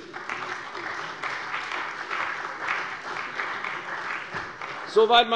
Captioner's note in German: Beifall bei der CDU und dem BÜNDNIS 90/DIE GRÜNEN